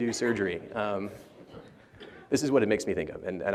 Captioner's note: laughter